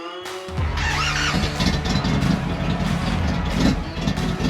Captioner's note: engine revs